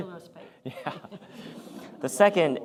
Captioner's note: laughter